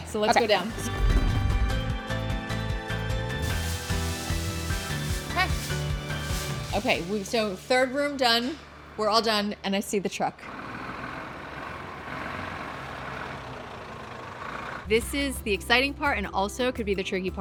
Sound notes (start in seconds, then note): 0.0 upbeat music; 10.6 truck engine rumbling